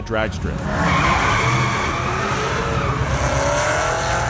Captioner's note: car screeching